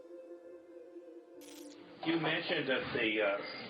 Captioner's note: light crackling